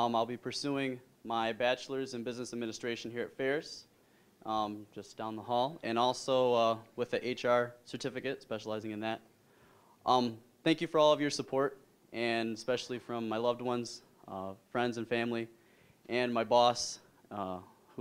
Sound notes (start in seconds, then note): none